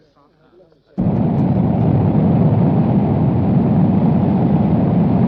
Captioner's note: plane whirring